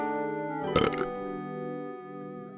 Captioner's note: burp